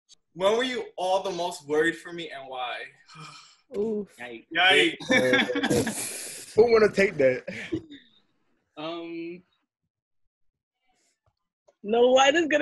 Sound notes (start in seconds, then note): 4.8 laughing